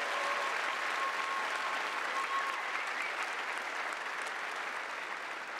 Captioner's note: cheers and applause